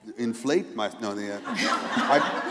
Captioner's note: laughter